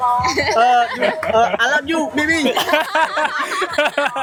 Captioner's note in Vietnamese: tiếng cười